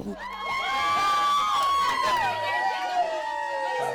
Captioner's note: cheering